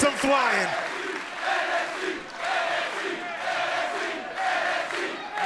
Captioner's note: crowd chants "NXT"